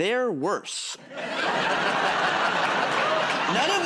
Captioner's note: laughter